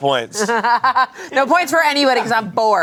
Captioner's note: laughs